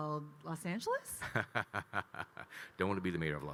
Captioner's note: Kyle laughing